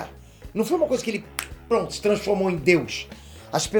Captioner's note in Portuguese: estalo